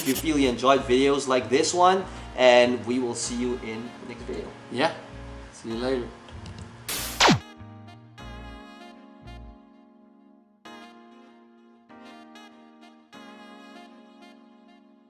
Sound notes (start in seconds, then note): 7.0 electronics powering down; 9.1 slow saxophone music